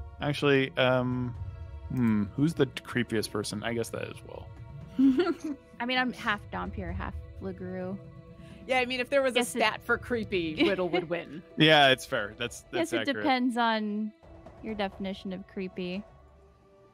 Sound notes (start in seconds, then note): 5.0 laughs